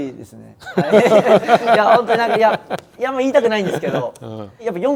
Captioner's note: laughs